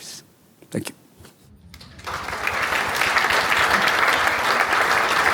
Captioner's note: audience applauding